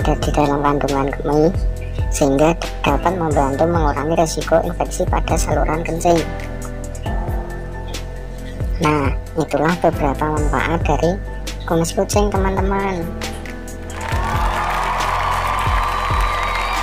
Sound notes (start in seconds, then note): 13.9 applause